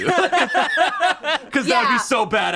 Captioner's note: group laughs